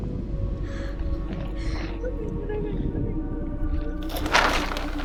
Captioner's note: woman crying